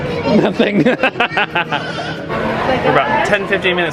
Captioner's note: laughing